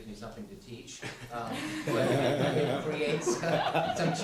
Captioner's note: laughter